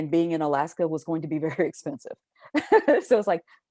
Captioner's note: chuckles